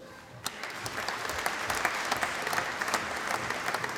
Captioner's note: applause